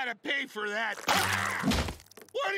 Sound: screaming

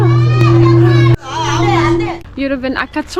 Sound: ringing the bell

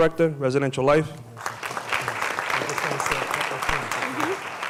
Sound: applause

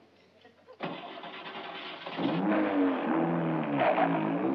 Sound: car starting

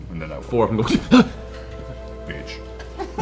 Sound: yelps

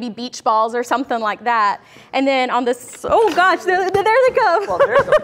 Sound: all laugh

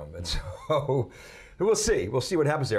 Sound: chuckles

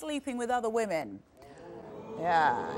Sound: audience gasping

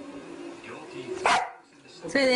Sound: bark!!

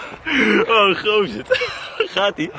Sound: laughing

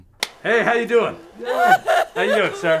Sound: woman crying

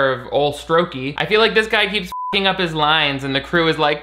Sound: beep

